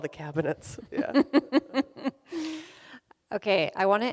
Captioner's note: laughs